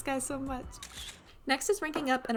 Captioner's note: camera shutter